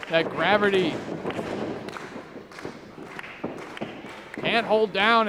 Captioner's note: crowd clapping